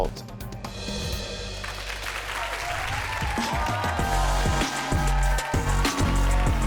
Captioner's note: audience cheering and clapping